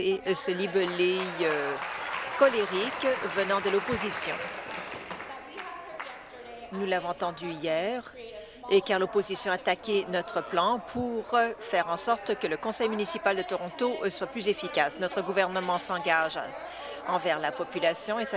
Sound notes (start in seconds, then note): 4.9 applause